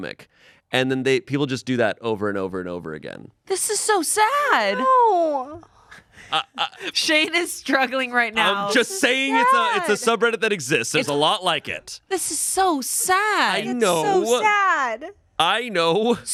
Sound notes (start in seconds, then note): 6.0 stammers